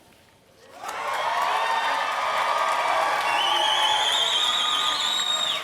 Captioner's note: applause and cheers